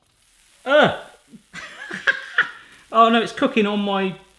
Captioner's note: groans